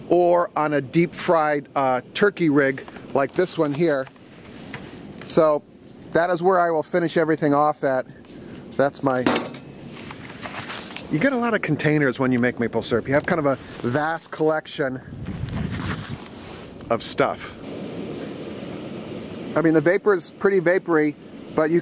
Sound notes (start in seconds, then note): 9.2 cup thuds